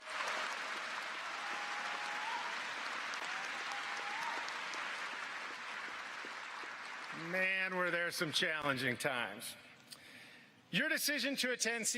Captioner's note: cheers and applause